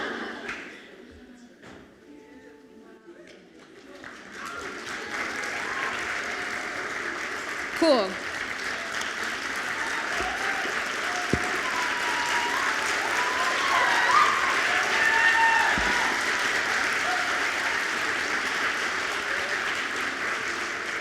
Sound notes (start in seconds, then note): 0.0 audience laughs; 4.9 audience applauds; 10.6 audience applauds continues